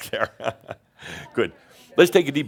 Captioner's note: Adamus chuckles